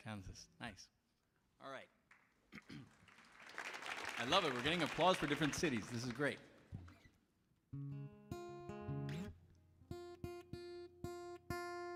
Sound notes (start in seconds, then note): 2.9 audience applauds; 7.7 tunes guitar